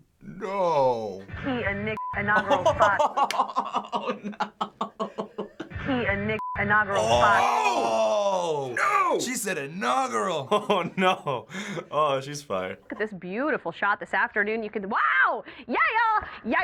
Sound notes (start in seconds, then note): 2.3 laughing uproariously; 9.8 chuckling